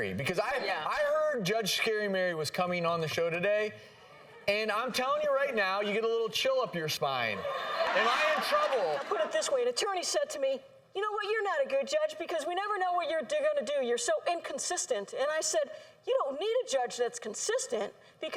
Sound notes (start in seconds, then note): 7.4 laughter